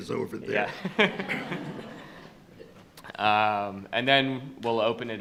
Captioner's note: attendees laughing; laughing